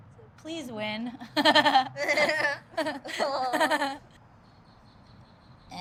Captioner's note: laughs